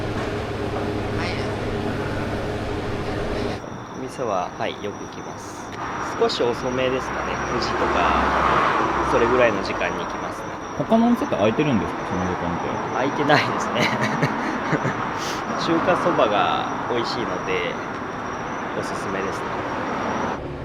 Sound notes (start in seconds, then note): 13.2 laughter